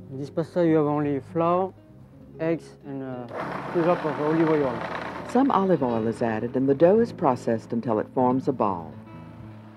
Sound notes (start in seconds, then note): 5.3 voiceover